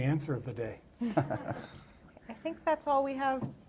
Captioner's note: laughter